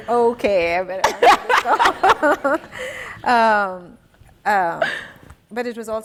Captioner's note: laughing